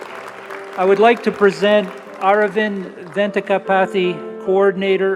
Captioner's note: applause